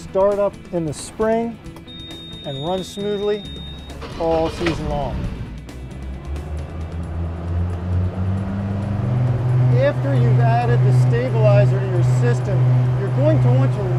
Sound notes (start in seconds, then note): 3.4 engine starts; 5.5 engine revving